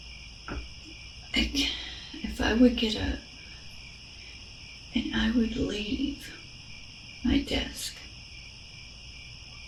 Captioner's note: crickets